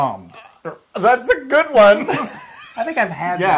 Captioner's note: laugh